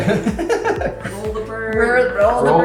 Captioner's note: laughing